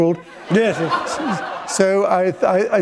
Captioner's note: laughter